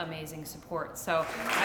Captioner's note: applause